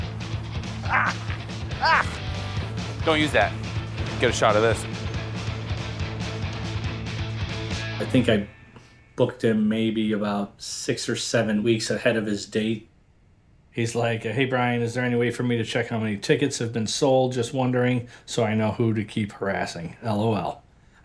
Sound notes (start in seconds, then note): 1.7 grunting; 5.1 upbeat rock music